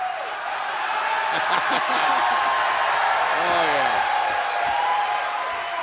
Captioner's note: cheers and applause